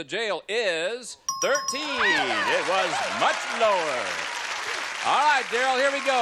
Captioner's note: applause